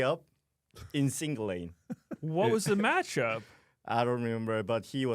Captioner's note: laughs